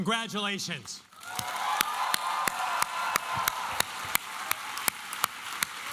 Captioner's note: cheering and applause